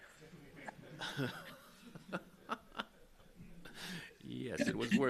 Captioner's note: attendees laugh